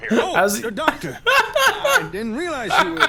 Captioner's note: laughs